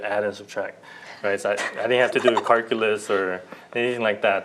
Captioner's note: laughter